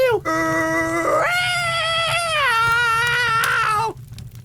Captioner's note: sounds from hell